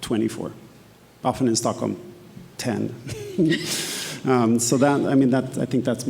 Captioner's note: laughs